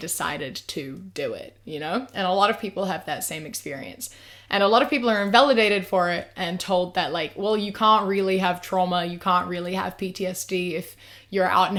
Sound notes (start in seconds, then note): none